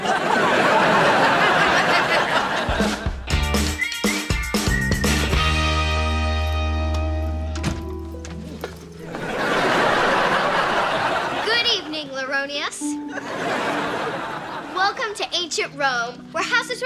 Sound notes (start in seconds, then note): 0.0 audience laughing; 1.6 upbeat music; 9.0 audience laughing